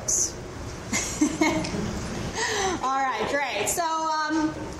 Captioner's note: laughs